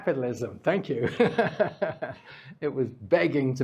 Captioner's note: laughs